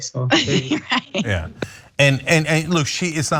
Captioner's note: laugh